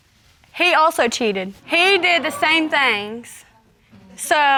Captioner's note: audience exclaiming